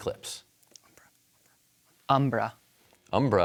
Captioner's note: whispers